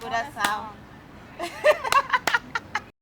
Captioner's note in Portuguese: Risos